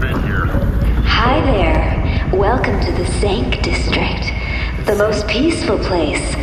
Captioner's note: Pleck murmurs to himself in confusion